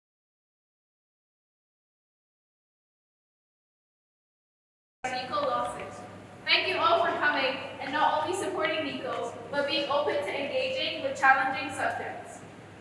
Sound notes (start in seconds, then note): none